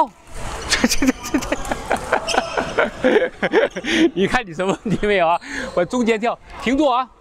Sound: laughs

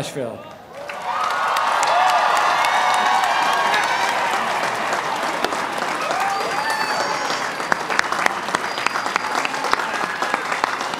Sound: applause and cheering

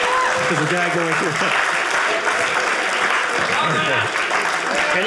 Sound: audience applauding

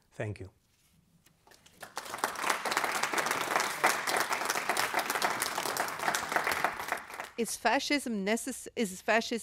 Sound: applause

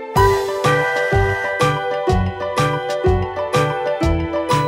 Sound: whistle blowing

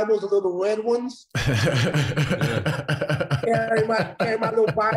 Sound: laughing

